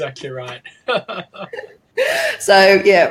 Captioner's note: laughing